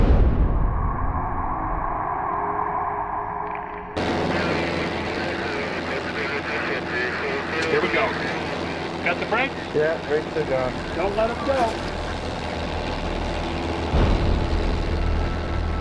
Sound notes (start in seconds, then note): 0.0 eerie music; 2.4 jet engine roaring; 2.4 people chattering; 11.0 jet engine roaring; 11.7 dramatic music